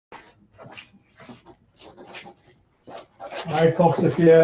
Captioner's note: footsteps plodding